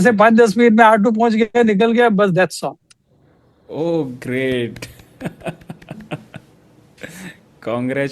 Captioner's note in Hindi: हंसी